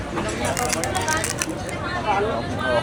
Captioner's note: crunch